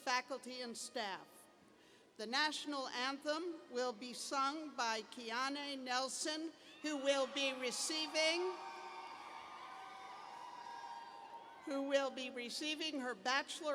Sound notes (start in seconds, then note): 9.1 cheers and applause